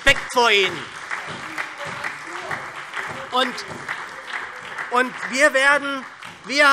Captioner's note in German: Beifall SPD